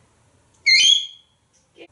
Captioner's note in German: tweet